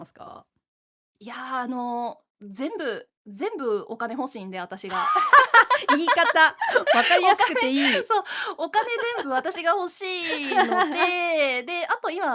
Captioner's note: laughs